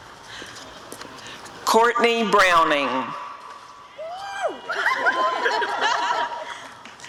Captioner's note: audience cheering